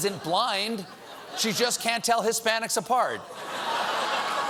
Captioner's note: laughter